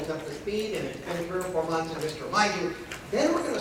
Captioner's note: speaking faintly